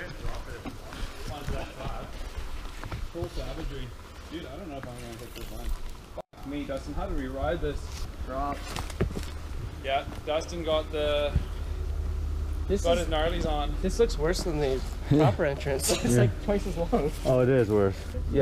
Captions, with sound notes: - I mean you can't drop it. (group chatting) - Full savagery. Dude, I don't know if I'm gonna hit this one. I mean, Dustin, how do we ride this drop? - Yeah, Dustin, got the... got his gnarlies on. - This look worse than the upper entrance it's like twice as long. - Oh, it is worse.